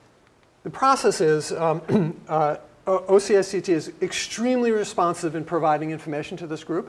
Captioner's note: cough